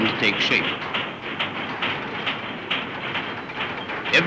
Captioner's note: hammering